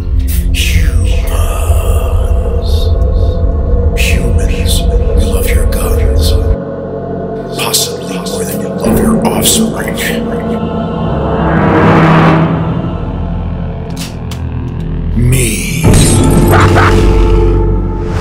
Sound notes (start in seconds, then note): 10.9 sharp sounds